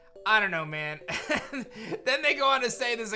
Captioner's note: chuckles